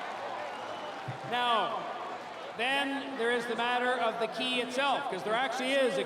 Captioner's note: cheering; applause